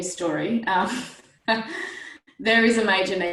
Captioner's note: laughs